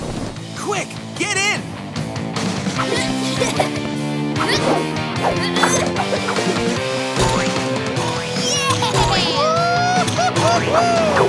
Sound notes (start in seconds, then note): 2.5 grunting